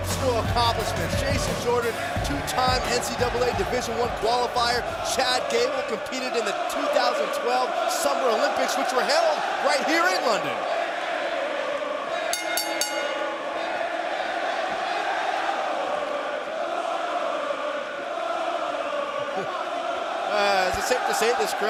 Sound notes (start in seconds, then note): 11.0 crowd cheering; 12.3 bell ringing; 14.0 crowd cheering